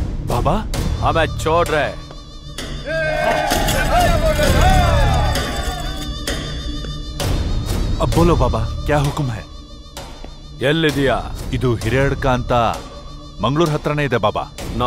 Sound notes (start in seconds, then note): 2.8 screams